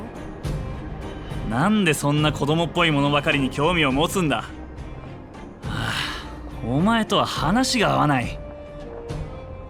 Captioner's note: sigh